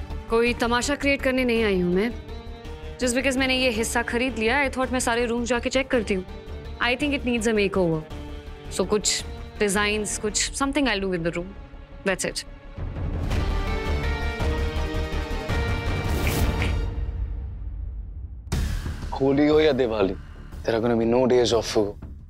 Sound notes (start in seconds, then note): 16.2 snaps fingers